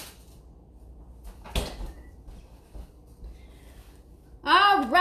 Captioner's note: door bangs